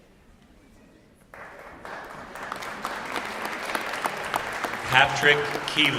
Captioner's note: applause